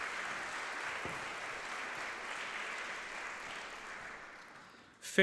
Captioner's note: audience clapping